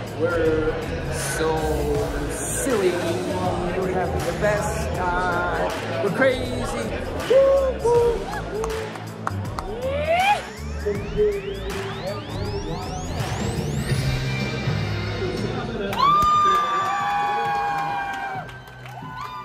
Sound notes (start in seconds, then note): 8.5 guest clapping; 10.1 hooting; 14.6 upbeat music; 15.8 crowd cheering